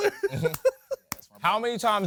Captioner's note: laughs